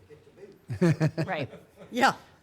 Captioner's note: chuckling